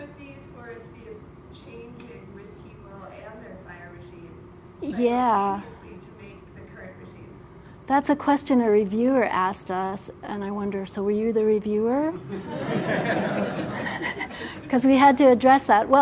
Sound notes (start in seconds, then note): 12.2 laugh